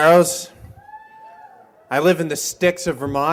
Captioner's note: cheers